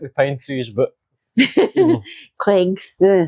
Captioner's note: laughing